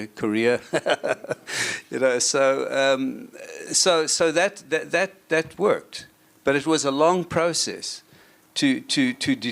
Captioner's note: laughs